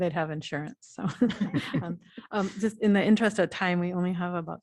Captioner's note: laughter